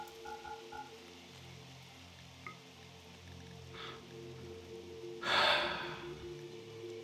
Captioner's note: sigh